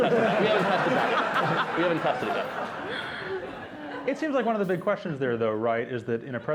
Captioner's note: laughter